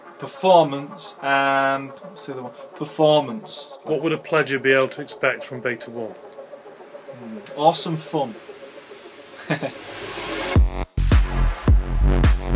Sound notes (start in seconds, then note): 9.4 laughs